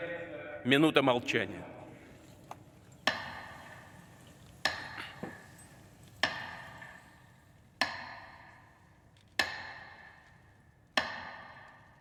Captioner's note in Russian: Минута молчания